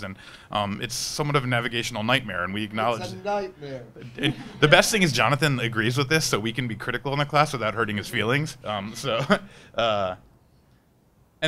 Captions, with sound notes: and it's somewhat of a navigational nightmare and we acknowledge-- - It's a nightmare. (audience laughing) - The best thing is Jonathan agrees with this so we can be critical in the class without hurting his feelings, so. (laughs)